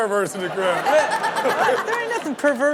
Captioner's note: Chanel giggles